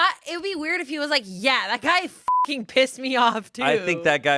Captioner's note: beep